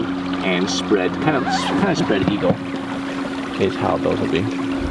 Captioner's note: zip squeaking